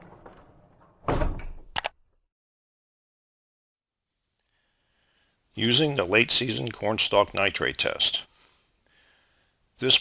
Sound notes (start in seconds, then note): 0.0 bumping; 1.7 clicking